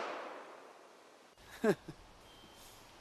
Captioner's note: gunshots blasting; laughs